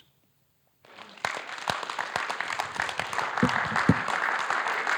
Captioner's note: audience applauding